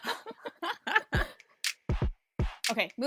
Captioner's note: hosts laugh